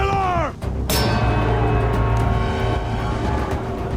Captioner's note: gong